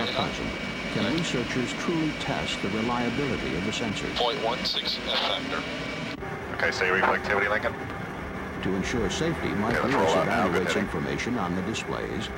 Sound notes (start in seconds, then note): 4.1 radio chatter